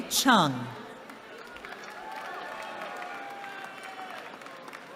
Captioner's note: cheering